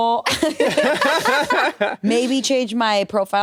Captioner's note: laugh